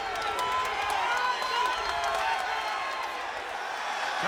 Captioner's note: applause